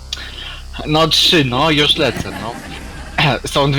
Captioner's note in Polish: śmiech publiczności